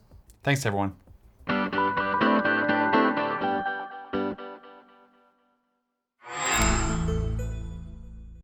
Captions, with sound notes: Thanks, everyone. [UPBEAT MUSIC PLAYING] [MICROSOFT SOUND]